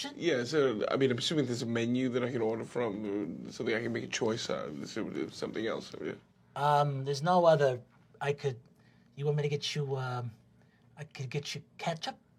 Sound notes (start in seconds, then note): none